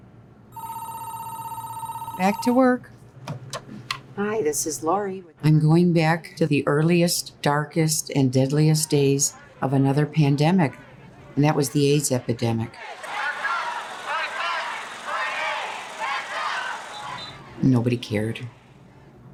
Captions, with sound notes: (phone rings) Back to work. Hi, this is Lori. I'm going back to the earliest, darkest, and deadliest days of another pandemic, and that was the AIDS epidemic. (crowd chants) Nobody cared.